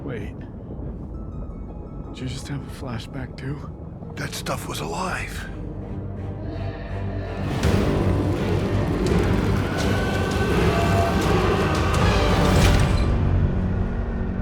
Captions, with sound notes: - Wait, did you just have a flashback too? - That stuff was alive. (dramatic music continues) (people screaming)